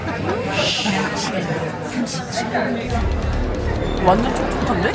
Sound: PD cracking up behind the scenes

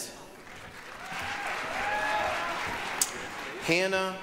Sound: applause, cheering

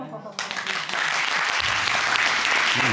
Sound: audience applauding

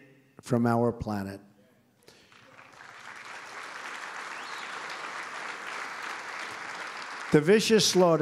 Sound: applause

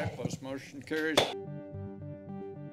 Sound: taps gavel

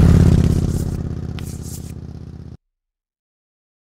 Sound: engine roaring

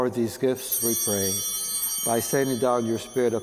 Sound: bell ringing

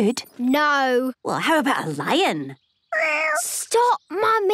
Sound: small meow

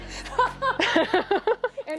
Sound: laughing

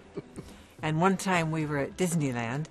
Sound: chuckling

